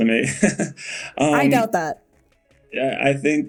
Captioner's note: Bode laughing